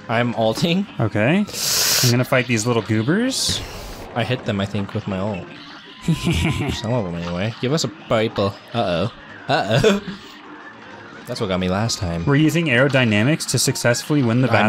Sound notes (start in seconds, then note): 5.9 imitating Hilda's laugh; 9.9 chuckle